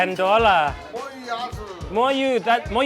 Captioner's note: speaks in a foreign language; man speaks in a foreign language; speaks in a foreign language